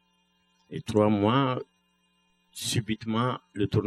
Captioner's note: speaking french